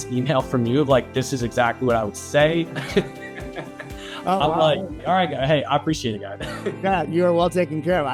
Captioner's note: laughs